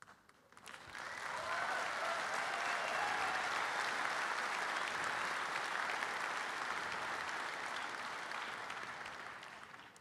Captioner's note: audience applauding